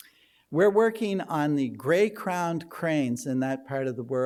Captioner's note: none